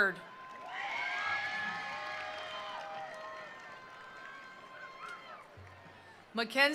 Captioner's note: attendees cheering; attendees applauding